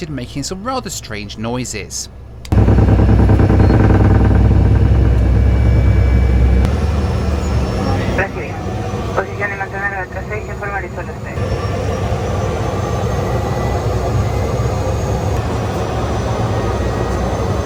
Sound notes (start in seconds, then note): 2.9 airplane thudding; 11.6 airplane whirring